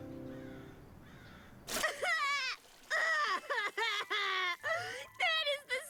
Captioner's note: sobbing